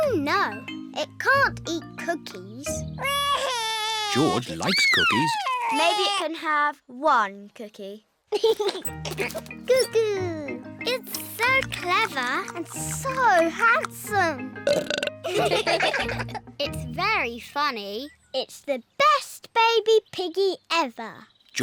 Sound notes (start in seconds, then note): 4.0 bawls; 8.3 giggles; 14.6 burps; 15.2 all laugh